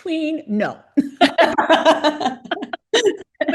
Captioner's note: laughter